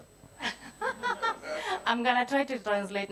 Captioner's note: attendees laughing